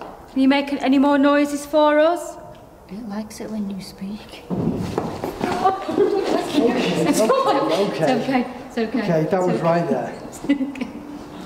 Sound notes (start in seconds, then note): 4.5 faint thudding